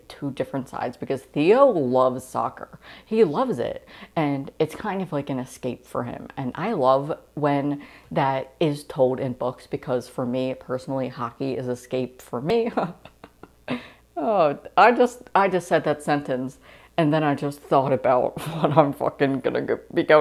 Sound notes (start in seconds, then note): 12.6 laughing